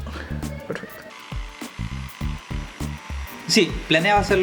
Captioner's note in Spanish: sonidos de taladro